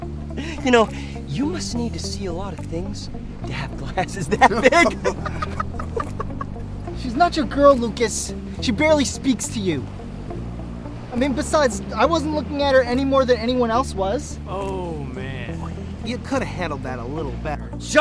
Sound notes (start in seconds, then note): 4.2 laughs